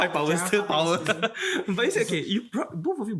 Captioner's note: laughs